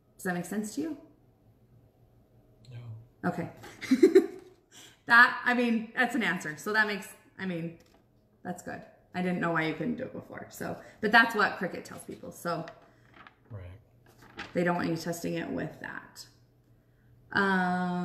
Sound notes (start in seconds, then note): 3.6 giggles